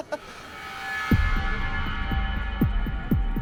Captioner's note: laughs